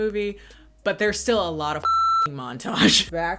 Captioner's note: beep